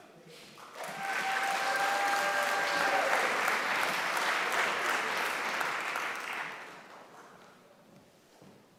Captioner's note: applause